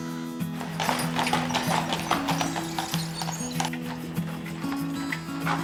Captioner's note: horse shoes clopping